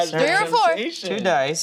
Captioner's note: group yelling